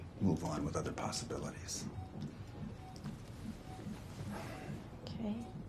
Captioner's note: heart monitor beeping